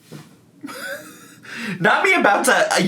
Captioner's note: laughs